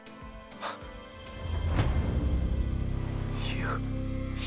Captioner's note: Max gasps